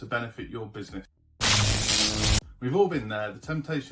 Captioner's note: electric buzz